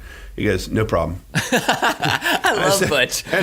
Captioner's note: laughing